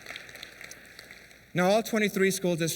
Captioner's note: applause